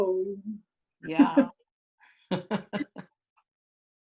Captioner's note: laughs